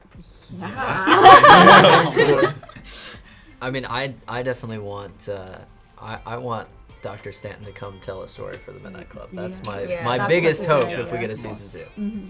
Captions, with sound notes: (all laughing) - I mean I definitely want, I want Dr. Stanton to come tell a story for the Midnight Club, that's my biggest hope if we get a season two.